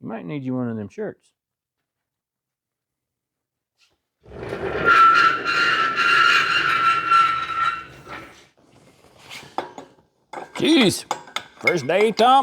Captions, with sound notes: (Crashing) (Tires Screeching) (Tires Screeching) (Footsteps) Jeez, first day, Tom.